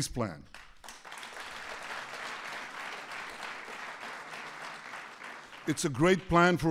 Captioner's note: applause